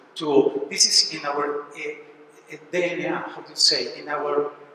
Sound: spanish

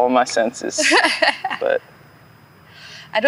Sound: laughing

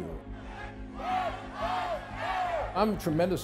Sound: crowd

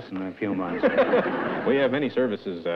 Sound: laughter

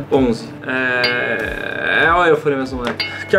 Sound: ding!

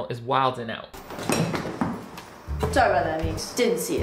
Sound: plate clanks

